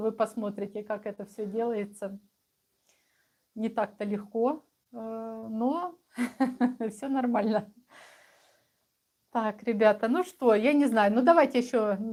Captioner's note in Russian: смех